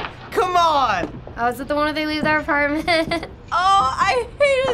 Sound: laughs

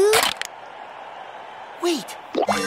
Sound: crushing

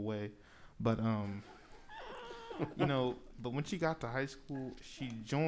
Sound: laughing

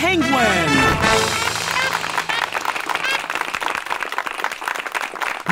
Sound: applause

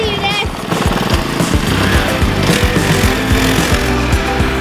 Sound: bike revs

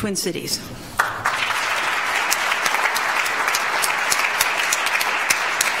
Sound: audience applauds

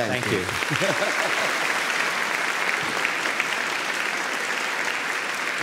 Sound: audience applauding

